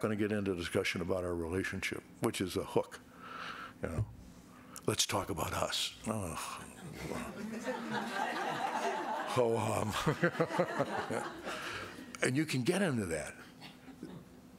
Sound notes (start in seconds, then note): 6.8 crowd laughing; 10.7 laughing